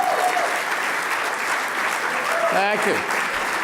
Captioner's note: applause